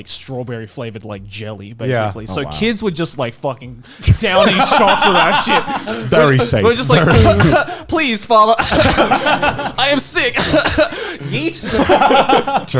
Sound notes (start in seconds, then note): 5.6 laughs; 9.2 laughing; 11.1 Joey coughs